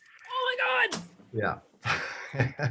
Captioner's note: laughs